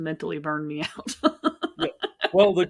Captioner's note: laughing